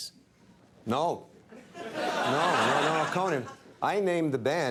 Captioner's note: crowd laughs